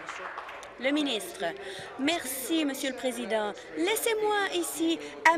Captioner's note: applause